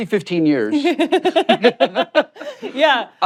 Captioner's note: laughs